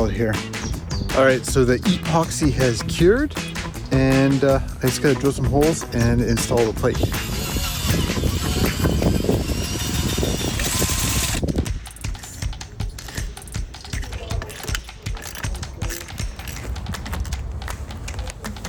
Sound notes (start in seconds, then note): 6.9 drill whirring